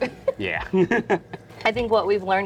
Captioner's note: laughs